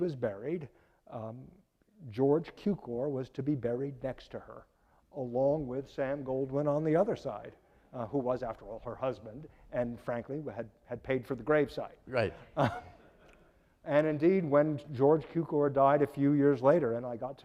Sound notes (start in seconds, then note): 12.1 laughing